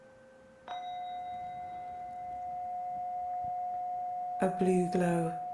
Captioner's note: chime ringing